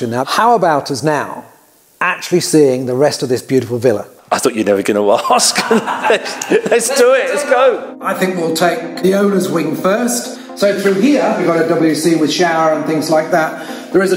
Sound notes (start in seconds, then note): 5.2 laughs